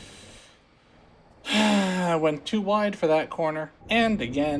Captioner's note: sigh